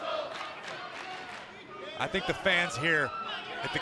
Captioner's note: fans chanting